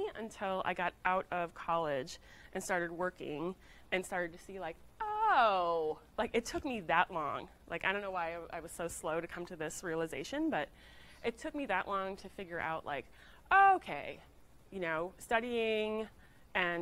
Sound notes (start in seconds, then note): none